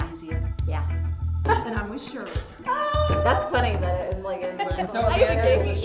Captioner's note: indistinct chatter